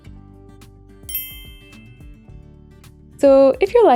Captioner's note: clinks